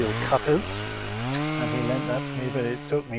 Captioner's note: chainsaw motor